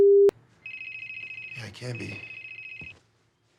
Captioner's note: cell phone ringing